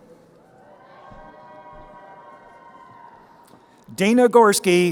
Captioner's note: crowd cheering